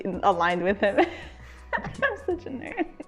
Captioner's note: both laugh